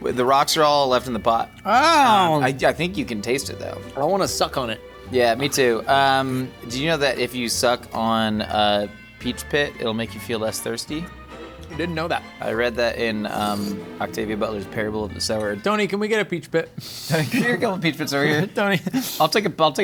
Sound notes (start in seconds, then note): 13.3 slurps; 18.1 chuckling